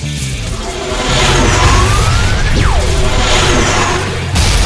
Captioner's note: sword whirring; sword crashes